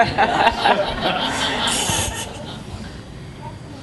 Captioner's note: laughing